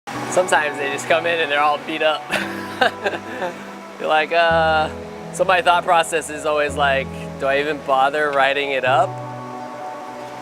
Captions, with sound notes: - Sometimes they just come in and they're all beat up. (laughs) You're like ugh. So my thought process is always like: Do I even bother writing it up